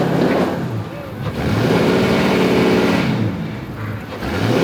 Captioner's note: engine revving